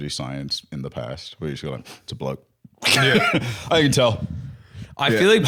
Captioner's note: sniffs